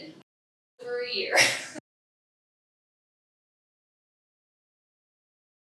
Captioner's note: laughs